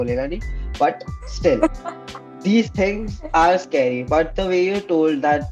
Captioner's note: laughs